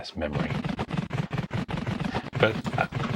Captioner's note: computer clicking